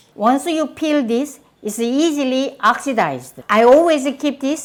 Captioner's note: none